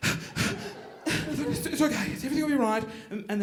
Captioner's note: hyper ventilating